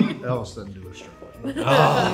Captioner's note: laughing; Elvis whispering